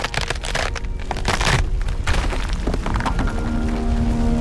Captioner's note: concrete grinding